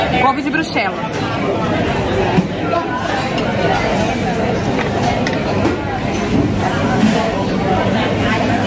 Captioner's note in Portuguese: ambiência de restaurante